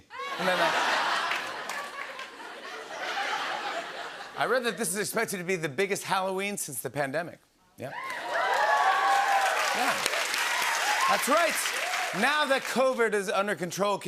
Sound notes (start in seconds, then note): 2.4 laughter; 7.9 cheers and applause